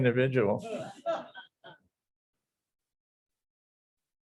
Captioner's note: audience laughs